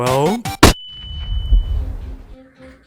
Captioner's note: flashbang sound effect